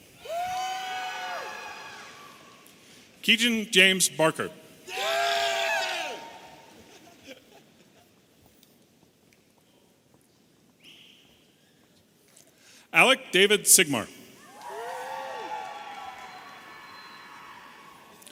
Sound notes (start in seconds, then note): 0.2 audience cheering; 6.7 chuckles; 14.4 audience cheering